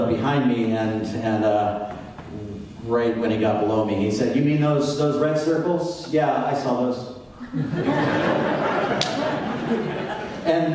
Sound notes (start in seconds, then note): 7.4 audience laughs